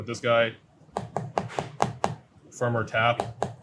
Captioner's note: fruit thudding